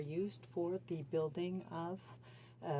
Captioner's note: speaking French